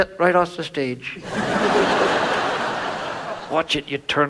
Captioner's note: audience laughs